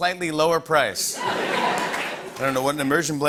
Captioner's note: laughter